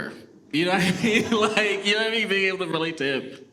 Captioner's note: laughs